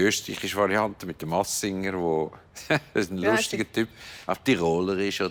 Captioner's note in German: Mit österreichischem Akzent